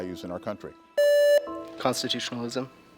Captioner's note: contestant beeping